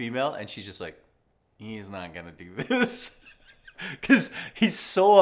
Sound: laughs

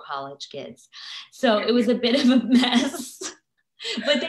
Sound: both laughing

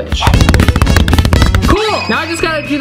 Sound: punching sound effect

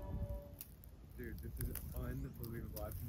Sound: crackling ice sounds

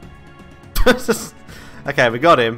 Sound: laughs

